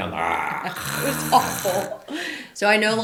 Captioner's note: laughs; snores